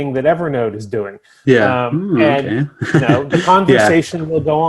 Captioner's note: chuckles